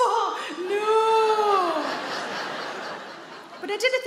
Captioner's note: audience laughing